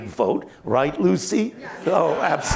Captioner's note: laughter